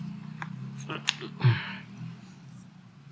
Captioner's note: motorbike sound is passing